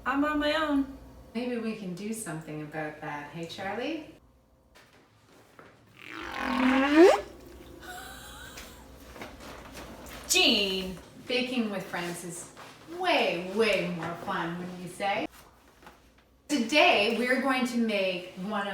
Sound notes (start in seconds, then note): 6.0 swoosh; 7.8 giggles